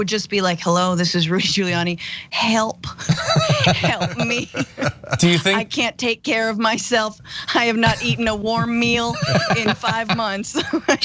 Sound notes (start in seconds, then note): 3.0 laugh; 10.3 laugh